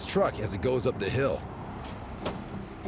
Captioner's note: vehicle door opens